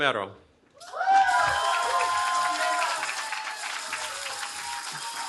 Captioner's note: cheering